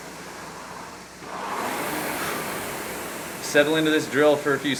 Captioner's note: rowing machine whirring